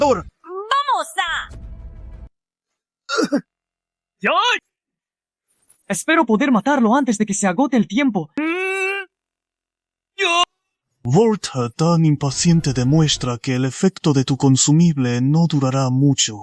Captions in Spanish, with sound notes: ¡Vamos! *Cof* ¡Ah! Espero poder matarlo antes de que se agote el tiempo. ¿Eh? Vaya. Verte tan impaciente demuestra que el efecto de tu consumible no durará mucho.